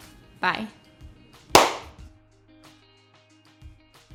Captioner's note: claps